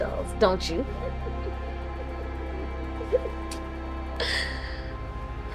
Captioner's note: both giggling